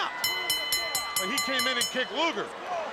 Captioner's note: bell ringing